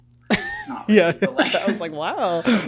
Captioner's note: laughs